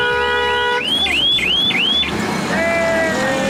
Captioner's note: horns beeping; siren shrieking